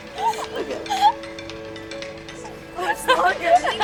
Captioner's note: laughing